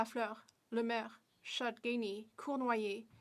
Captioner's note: speaking French